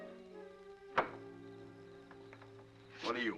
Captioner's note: knocking on door; door opens